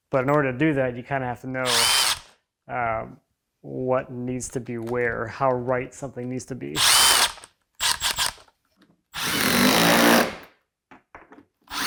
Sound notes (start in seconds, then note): 6.8 drill whirring